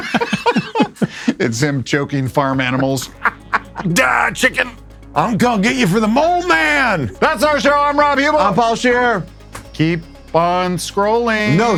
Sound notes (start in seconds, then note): 0.0 crew laughing